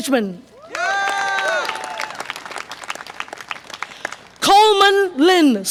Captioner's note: audience applause and cheer